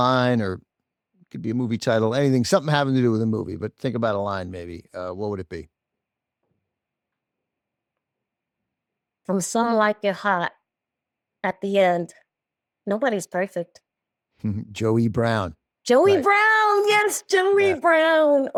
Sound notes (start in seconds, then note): 14.4 chuckles